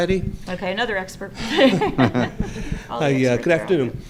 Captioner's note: laughter